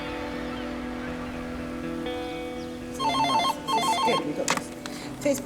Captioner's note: seagulls call; phone ringing